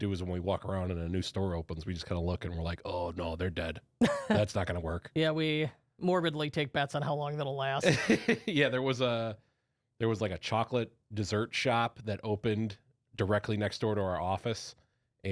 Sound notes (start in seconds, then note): 4.0 laughs; 7.8 laughs